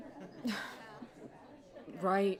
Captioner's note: sighs